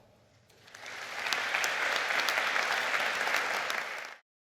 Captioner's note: audience claps